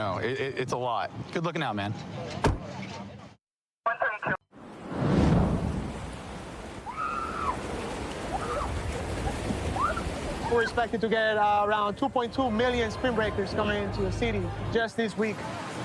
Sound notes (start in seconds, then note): 2.4 car door closing; 6.9 excited screaming